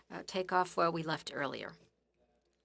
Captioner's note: speaking French